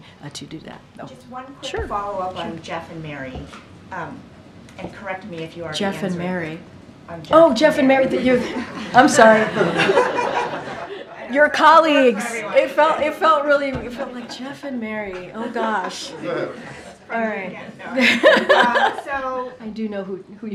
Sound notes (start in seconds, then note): 9.2 laughter; 17.9 laughter